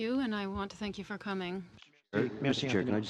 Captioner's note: speaking French